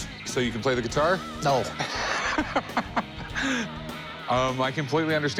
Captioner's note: laughs